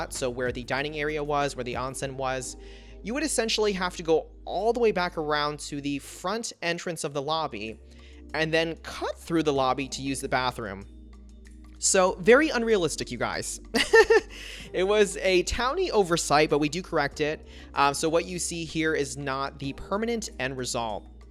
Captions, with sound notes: so where the dining area was, where the onsen was, you would essentially have to go all the way back around to the front entrance of the lobby and then cut through the lobby to use the bathroom. So very unrealistic, you guys! (Laughs) It was a Townie oversight, but we do correct it. So what you see here is not the permanent end result.